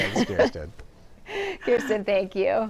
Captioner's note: laughter